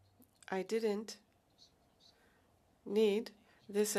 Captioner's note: speaking French